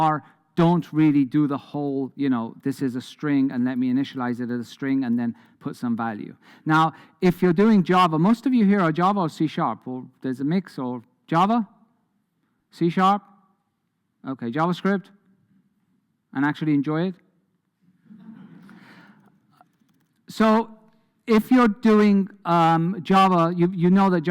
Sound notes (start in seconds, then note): 18.1 audience laughs